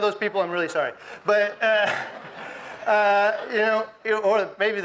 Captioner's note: audience laughs